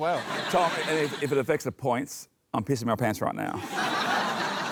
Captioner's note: laughs; cheering, applause